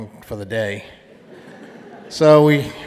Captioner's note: audience laughing